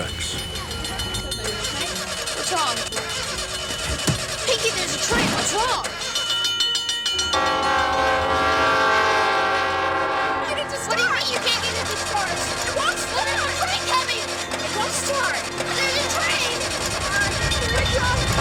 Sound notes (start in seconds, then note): 0.1 bell ringing; 7.3 train horn